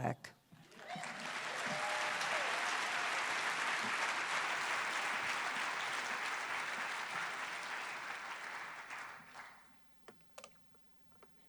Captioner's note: cheers and applause